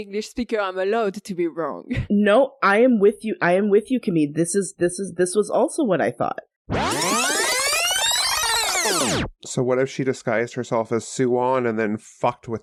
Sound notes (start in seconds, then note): 6.7 rewinding noise